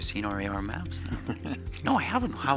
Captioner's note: laughs